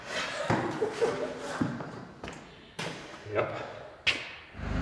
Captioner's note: chuckles